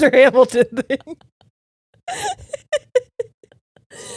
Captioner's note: laughing